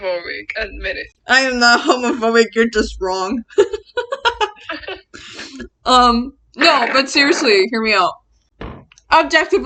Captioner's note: both laugh